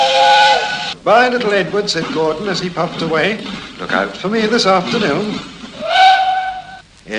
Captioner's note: train whistle; chuffing sounds; train whistle